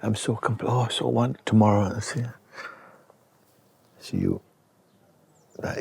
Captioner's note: imitates struggling